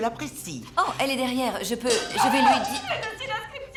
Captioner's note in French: cliquetis